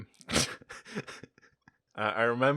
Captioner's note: laughter